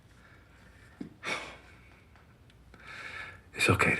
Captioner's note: he huffs, inhales